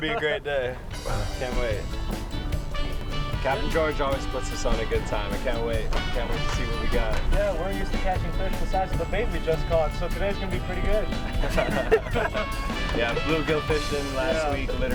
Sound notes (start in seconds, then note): 11.0 laughing